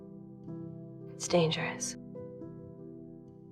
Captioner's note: voiceover